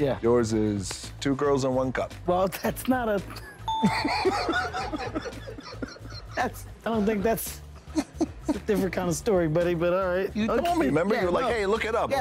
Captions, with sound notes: - Yeah. - Yours is two girls on one cup. - Well that's not a (Both laughing) - That's I don't think that's a different kind of story buddy, but alright. - You told me, remember, you were like, Hey look it up.